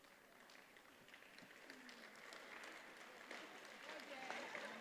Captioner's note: attendees applauding